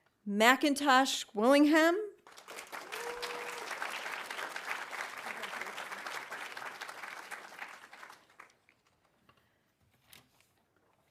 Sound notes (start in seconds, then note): 2.2 audience applauding